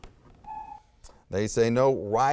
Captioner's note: timer buzzes